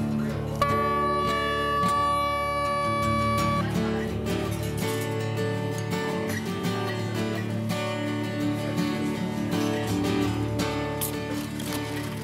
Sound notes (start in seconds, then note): 0.6 horn blaring; 5.3 background chattering